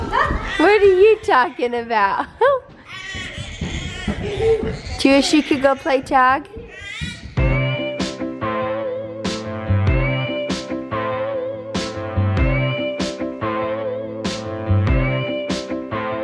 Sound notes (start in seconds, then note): 2.9 baby coos; 7.5 upbeat music